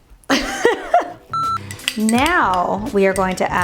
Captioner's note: laughter